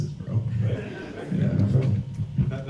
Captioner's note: audience laughs